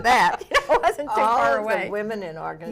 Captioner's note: laughs